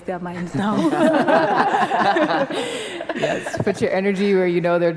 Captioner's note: group laughter